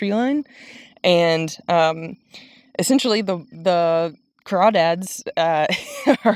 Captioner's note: laughs